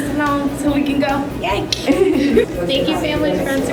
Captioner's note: laughter